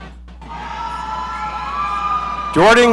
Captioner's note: audience cheering